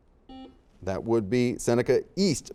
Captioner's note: buzzer dings